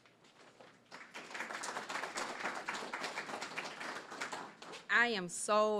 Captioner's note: applause